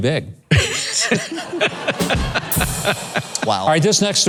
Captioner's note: laughs